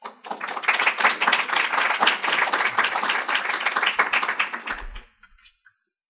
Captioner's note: applause